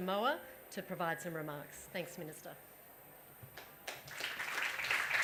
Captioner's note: applause